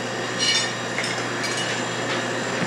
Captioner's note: dishes clinking